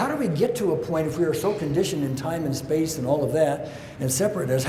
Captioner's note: none